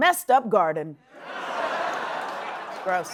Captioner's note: audience gasping